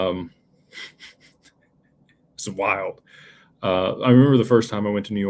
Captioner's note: laughter